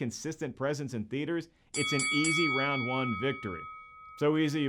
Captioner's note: bell rings